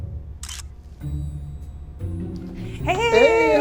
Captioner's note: cameras clicking